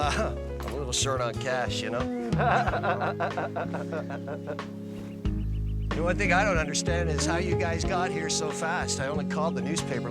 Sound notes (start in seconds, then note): 2.1 laughs